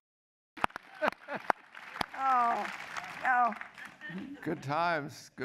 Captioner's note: applause